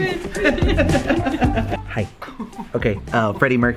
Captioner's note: laughing